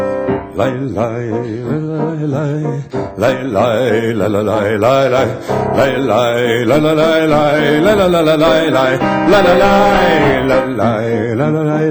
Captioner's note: Yiddish